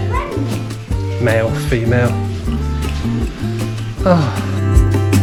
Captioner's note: sighs